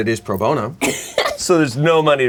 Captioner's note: laughing